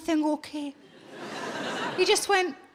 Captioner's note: audience laughing